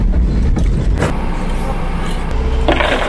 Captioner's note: rumble